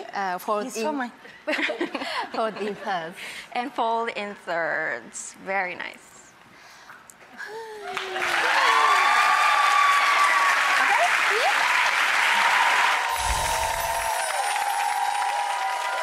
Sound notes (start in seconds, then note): 0.2 speaking foreign language; 1.4 laughter; 7.8 cheers and applause from crowd; 13.1 chimes